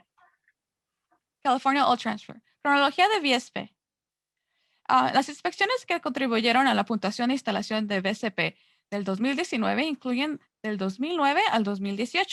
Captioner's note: Spanish